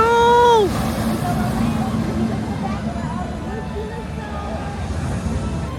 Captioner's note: crowd chattering; bright music